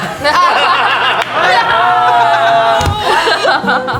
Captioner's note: group laughs